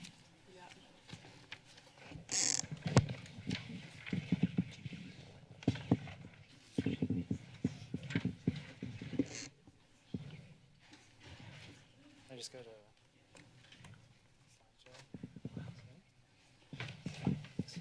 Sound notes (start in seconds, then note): 0.2 rustling; 2.3 mic noise; 3.1 paper rustling; 9.4 mic noise; 9.4 rustling